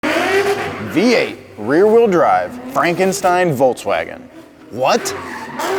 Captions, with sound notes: (engine roaring) - V8, rear wheel drive. Frankenstein Volkswagen. What?